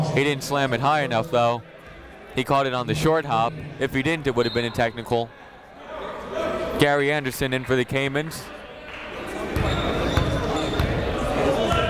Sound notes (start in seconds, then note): 8.5 chatter